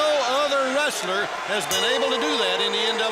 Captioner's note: bell ringing